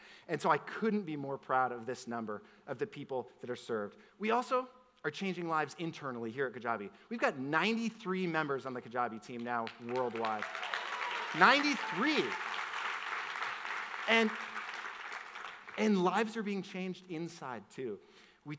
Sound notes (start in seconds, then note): 12.8 audience applauds